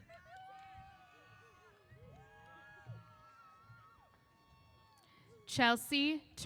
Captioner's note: cheers